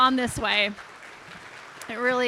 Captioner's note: audience applauding